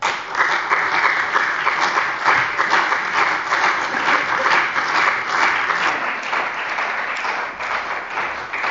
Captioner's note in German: Beifall bei der CDU und dem BÜNDNIS 90/DIE GRÜNEN